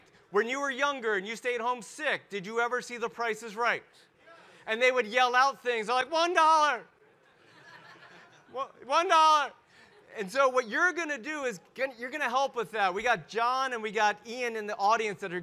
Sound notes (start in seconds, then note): 7.2 audience laugh